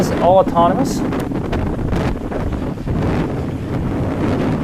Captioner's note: wind blowing